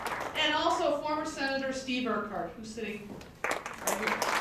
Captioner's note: applause